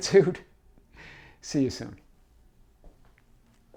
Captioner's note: chuckling